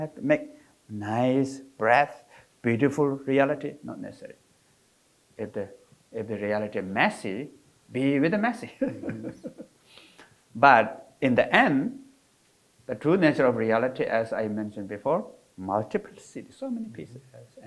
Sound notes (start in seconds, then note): 8.6 laughing